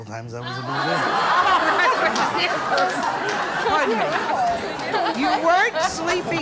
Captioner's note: audience exclaims